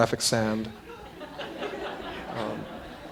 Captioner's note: laughter